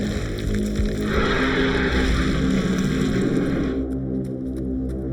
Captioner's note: shark roaring